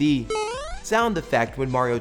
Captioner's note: mario jump sound